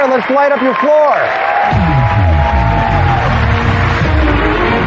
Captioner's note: cheering and applause; dramatic music